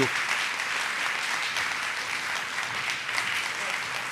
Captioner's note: attendees applauding